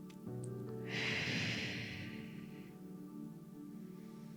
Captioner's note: gentle music; sharply exhaling